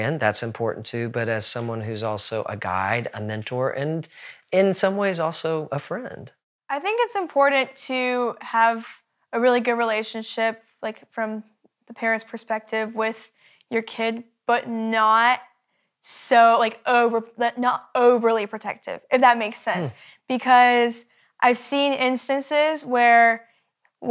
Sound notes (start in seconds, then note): none